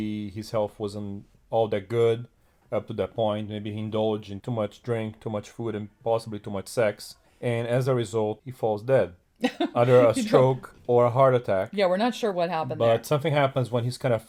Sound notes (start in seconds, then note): 9.5 laughs